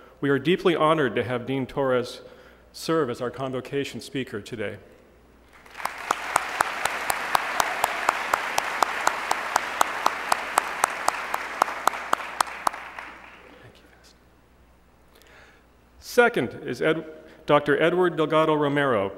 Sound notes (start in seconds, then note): 5.5 applause